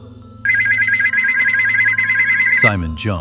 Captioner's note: phone ringing